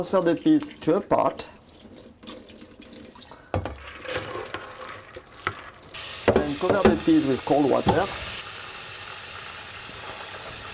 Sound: running water

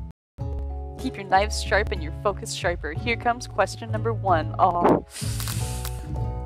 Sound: constipated horse sounds

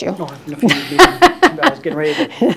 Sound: laughter

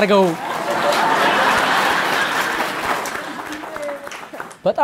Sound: laughter and applause

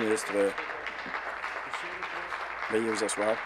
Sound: applause

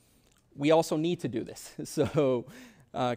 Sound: chuckles

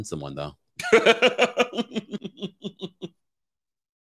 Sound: laughing

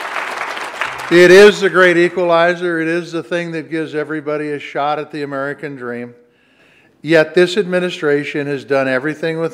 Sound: applause

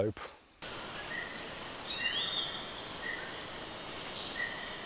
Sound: animal noises

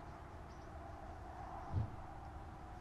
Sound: hood whoosh

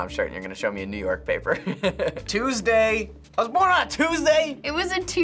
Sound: chuckles

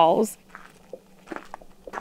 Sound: sound of crunching footsteps

